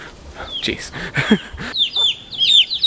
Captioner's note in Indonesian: tertawa